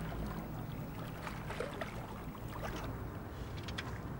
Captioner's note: water sloshing gently